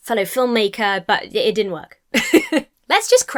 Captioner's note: laughs